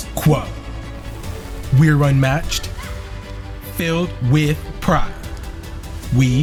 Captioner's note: cheerleaders cheering in background